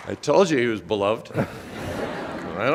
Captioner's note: audience laughs